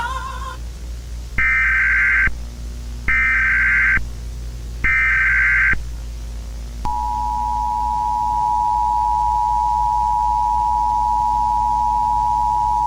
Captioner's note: emergency alert tone